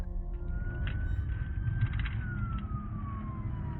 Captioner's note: police sirens